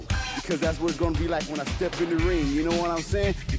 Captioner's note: chuckles